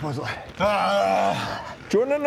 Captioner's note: urghghghhh